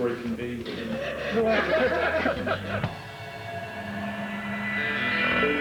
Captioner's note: laughter from all